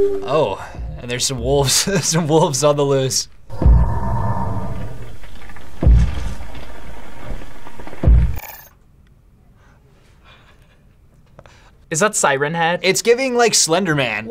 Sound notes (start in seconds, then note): 0.0 howling music; 1.9 laughs; 3.4 monster thumping